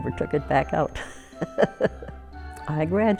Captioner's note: chuckles